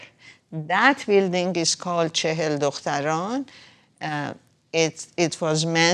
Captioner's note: speaking foreign language